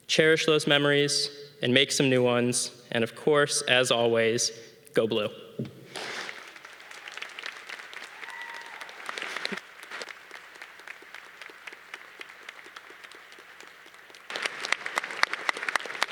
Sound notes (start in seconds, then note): 6.2 audience applause